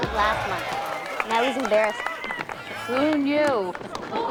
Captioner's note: chuckles